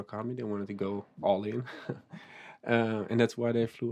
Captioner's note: chuckles